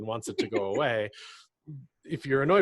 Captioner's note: laughs